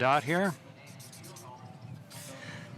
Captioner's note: markers scratching on paper